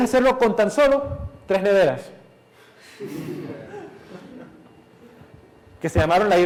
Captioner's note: class laughs